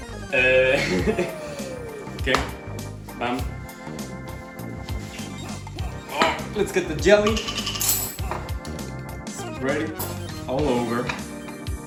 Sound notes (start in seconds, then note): 0.3 laughs; 4.9 grunts